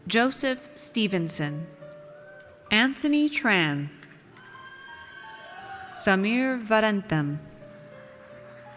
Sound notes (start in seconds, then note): 4.3 audience cheers